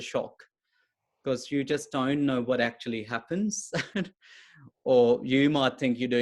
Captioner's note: chuckles